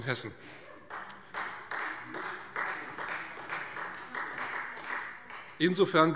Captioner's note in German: Beifall Freie Demokraten